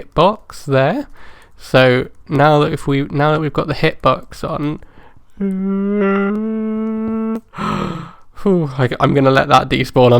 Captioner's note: scared noises